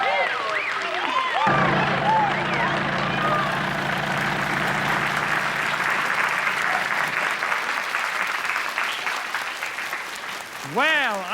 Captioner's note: cheers and applause